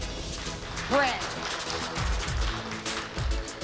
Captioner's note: applause